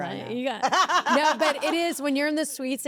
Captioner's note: laugh